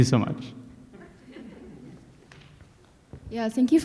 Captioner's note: audience laughs